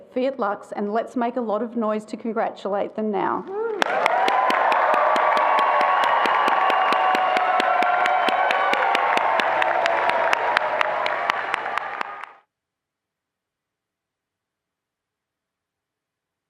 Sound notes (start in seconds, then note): 3.8 attendees applauding and cheering